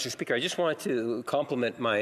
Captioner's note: speaking French